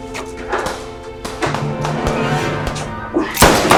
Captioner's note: guns firing